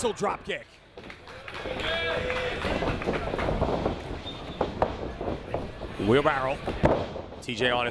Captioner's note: applause